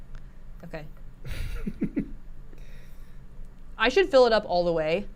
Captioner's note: laughs